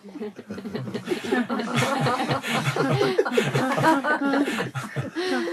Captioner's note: laughter